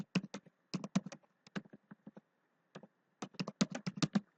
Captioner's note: typing